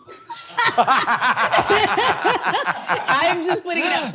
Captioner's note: both laughing